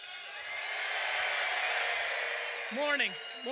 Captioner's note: audience cheering loudly